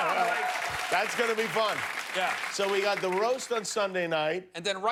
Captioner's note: audience moaning